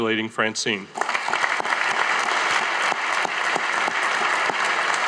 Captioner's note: audience applauding